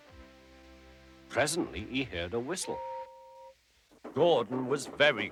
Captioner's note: horn whistling